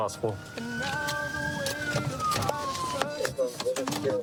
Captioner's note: sirens blaring